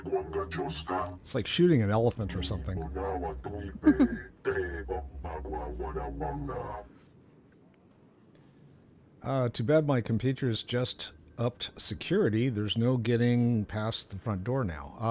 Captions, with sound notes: It's like shooting an elephant or something. [NON-ENGLISH SPEECH] Too bad my computer has just upped security. There's no getting past the front door now.